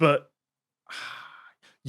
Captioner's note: sighs